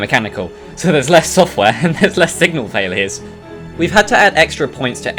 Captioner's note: chuckles